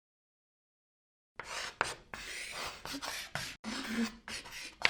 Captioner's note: chalk scratching